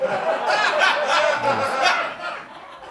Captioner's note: laughter